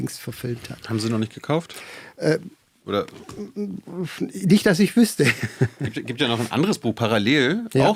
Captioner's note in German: gelächter